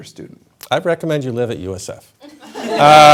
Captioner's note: laughter